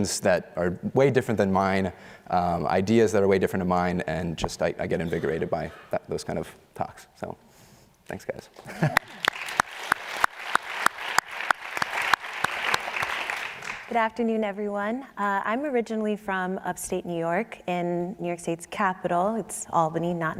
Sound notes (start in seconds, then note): 13.8 applause